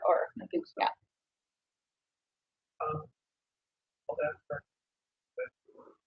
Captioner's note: man speaks through warped and choppy audio